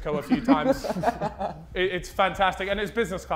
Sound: Sidemen laughing

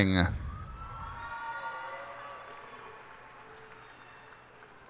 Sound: cheers and applause

